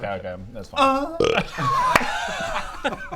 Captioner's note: burp